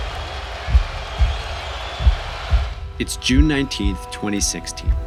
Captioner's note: spectators cheering; heart beating